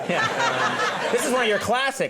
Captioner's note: audience laughing